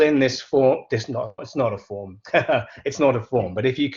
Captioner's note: laughs